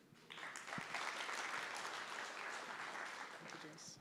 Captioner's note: applause